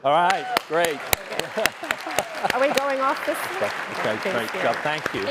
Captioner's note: cheers, applause